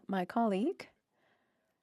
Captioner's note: speaking French